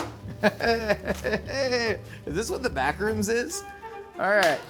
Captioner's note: laughing